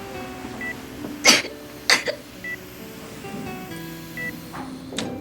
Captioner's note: Marie crying